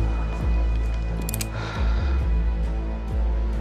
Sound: gun clicks

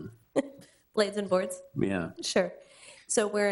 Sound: chuckles

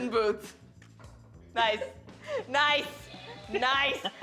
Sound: laughter

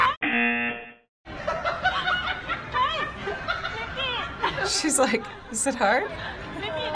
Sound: man laughing

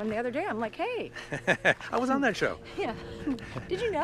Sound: laughs

